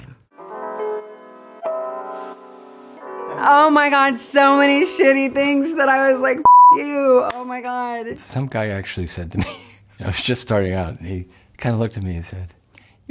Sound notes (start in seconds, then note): 0.2 soft music; 6.4 beeping